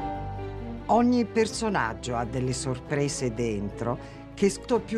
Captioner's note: speaking italian